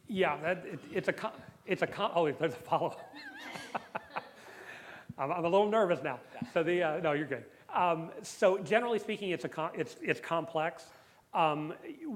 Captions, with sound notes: Yeah. It's a-- oh, there's a follow-up. [LAUGHS] I'm a little nervous now. So the-- no, you're good. So generally speaking, it's complex.